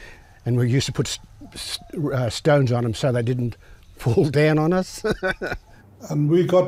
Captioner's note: laughs